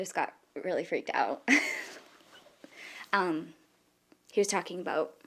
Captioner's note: laughing